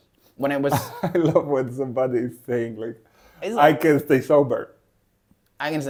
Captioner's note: laughs